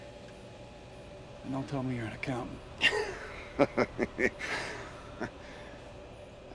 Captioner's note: laughs